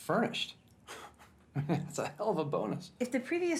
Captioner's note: laughs